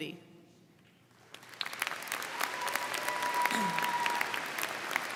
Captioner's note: crowd clapping